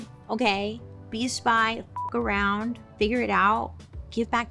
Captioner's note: beeps